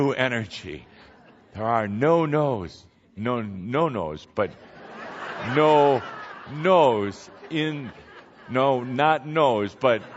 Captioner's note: laughter